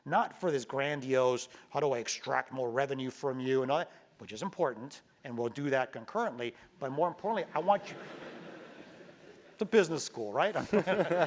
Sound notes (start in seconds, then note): 7.7 laugh